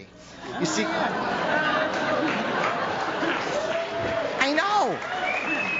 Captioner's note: audience laughs